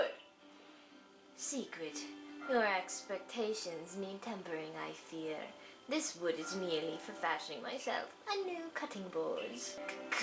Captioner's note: in a Mid-Atlantic Accent